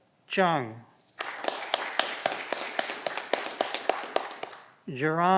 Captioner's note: audience clapping